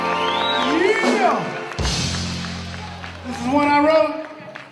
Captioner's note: applause